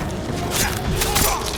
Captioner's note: grunting